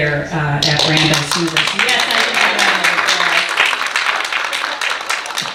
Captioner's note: audience applauding